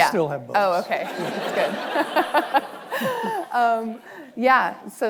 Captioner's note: audience laughing